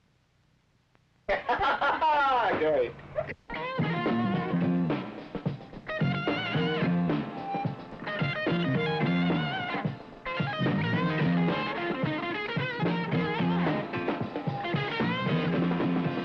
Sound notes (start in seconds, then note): 1.3 laughing; 4.7 upbeat rock music